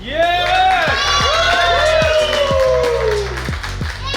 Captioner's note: cheering & Clapping